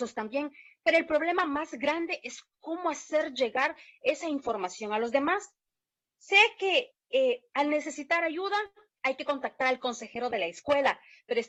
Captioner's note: spanish